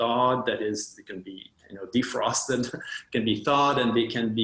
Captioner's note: chuckles